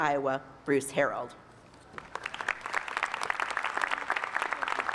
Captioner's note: applause